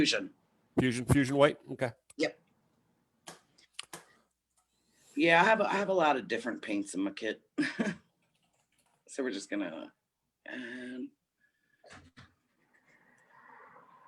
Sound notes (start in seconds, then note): 7.6 chuckles